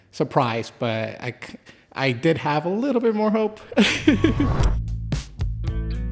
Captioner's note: laughs; groovy music